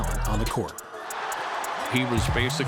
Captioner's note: crowd cheering